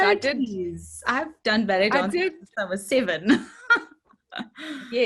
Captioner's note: laughs